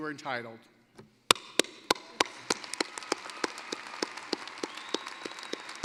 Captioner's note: applause